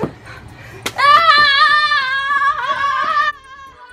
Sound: yelling from both

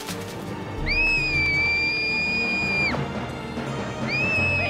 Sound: screaming

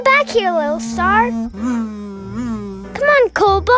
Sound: buzzing

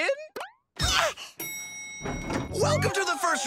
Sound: dinging

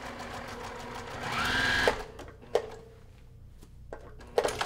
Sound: sewing machine grinding

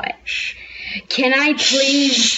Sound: inhale

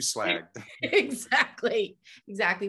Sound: laughs

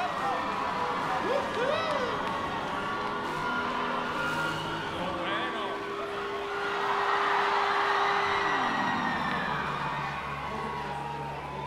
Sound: gente en concierto gritando

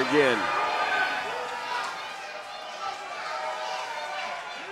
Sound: crowd cheering

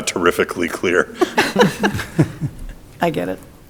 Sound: people laughing

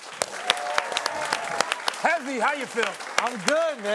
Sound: applause

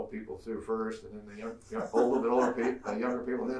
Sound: laughs

